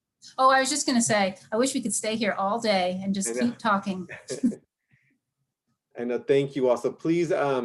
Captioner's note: laughter